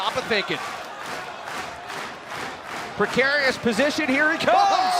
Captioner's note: crowd cheering